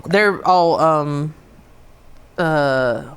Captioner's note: hums